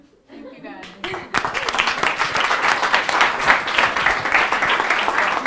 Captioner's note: audience applauding